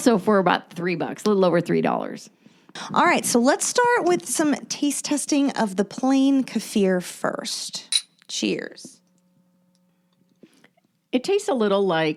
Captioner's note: glasses clink